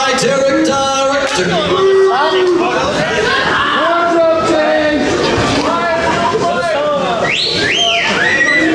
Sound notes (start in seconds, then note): 2.5 booing; 2.5 whistling